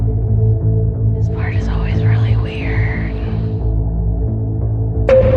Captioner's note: quietly